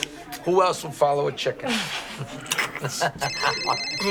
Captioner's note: cell phone rings